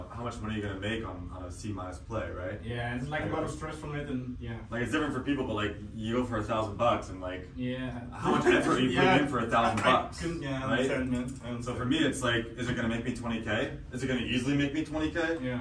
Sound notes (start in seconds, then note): 8.2 laughs